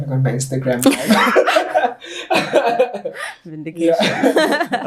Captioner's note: all laughing